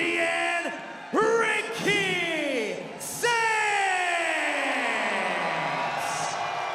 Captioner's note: audience cheering